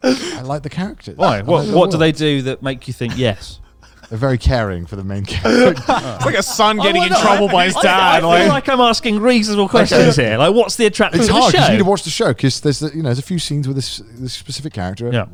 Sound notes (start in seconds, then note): 5.2 laughs